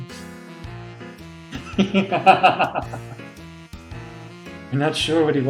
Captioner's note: laughs